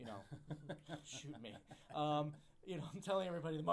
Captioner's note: laughs